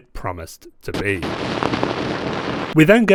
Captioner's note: static Glitching